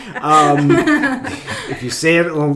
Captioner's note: laughing